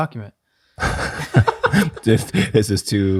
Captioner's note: group chuckling